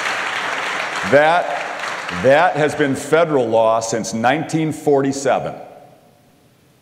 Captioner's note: applause